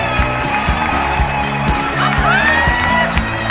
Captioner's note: applause